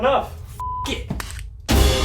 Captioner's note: beep; dramatic music